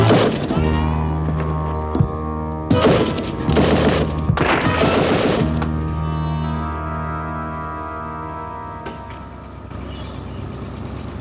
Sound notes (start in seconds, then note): 0.0 gun shot; 2.7 guns shooting